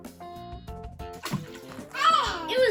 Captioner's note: water splashes